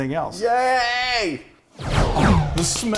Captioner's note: swoosh